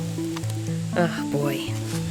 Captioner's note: slap tapping